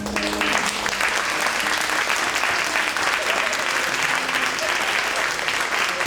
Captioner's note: audience applauding